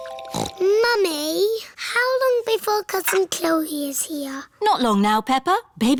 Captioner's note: snorts